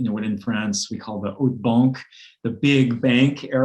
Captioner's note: speaks foreign language